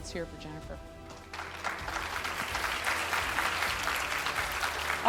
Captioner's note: audience applauds